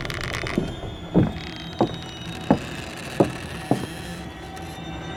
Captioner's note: footsteps; bridge creaking